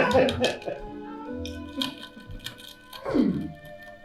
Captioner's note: crack crack